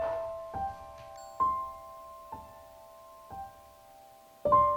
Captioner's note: camera beep